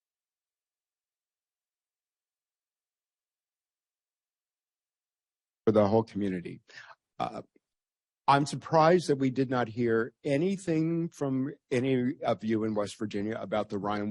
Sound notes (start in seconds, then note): 0.9 audio gap